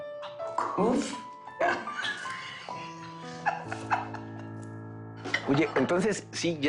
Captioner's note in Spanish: Risas